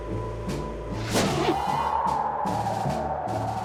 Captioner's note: wind whooshing